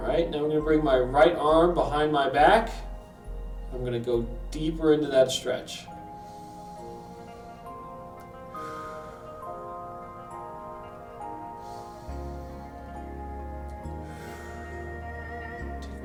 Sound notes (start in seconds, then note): 6.3 inhales; 8.7 exhales; 11.7 inhales; 13.8 exhales